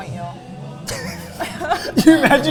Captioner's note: both laughing